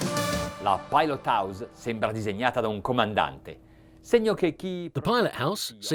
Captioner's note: speaking in a foreign language